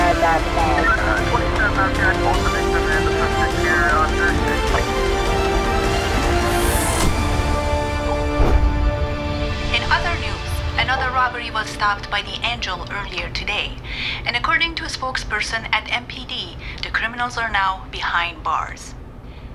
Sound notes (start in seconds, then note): 0.1 light dramatic music; 8.3 whooshing